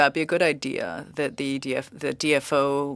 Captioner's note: speaking french